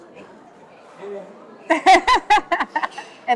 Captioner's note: laughing